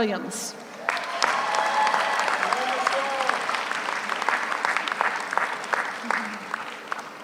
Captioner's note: audience cheers; audience applauds